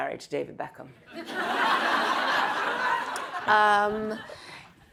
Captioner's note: audience laughs